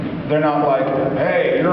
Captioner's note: none